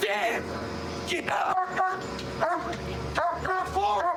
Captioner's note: barking